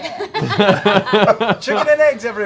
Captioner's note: laughter